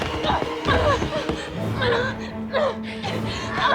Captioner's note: dramatic music; groaning; dramatic music